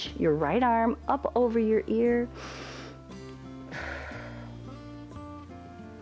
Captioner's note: inhales and exhales